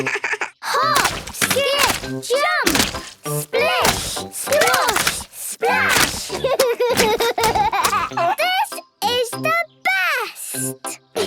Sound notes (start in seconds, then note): 0.0 laugh; 6.8 laughs